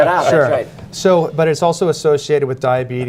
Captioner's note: laughter